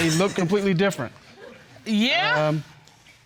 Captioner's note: audience chuckles